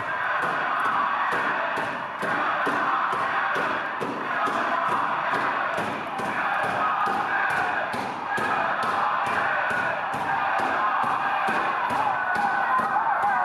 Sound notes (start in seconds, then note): 0.3 feet stomping; 5.6 muffled, distant chanting